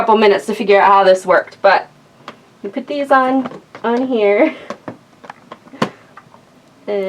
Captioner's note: laughs